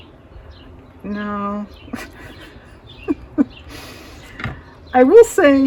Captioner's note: laughs